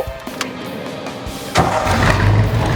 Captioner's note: click and engine start